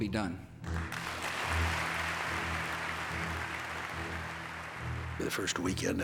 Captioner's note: applause